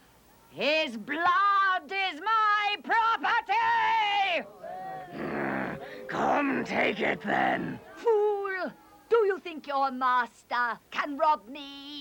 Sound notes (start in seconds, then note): 5.1 growling